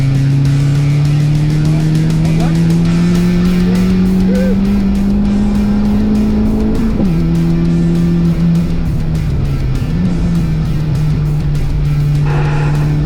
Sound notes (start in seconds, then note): 5.4 car engine revving continues; 5.4 upbeat music continues